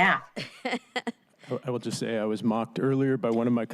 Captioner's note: laughter